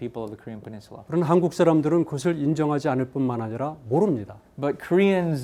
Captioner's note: speaking in Korean